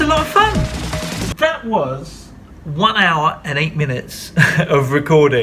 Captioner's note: laughs